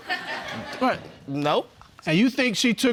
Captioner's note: audience laughing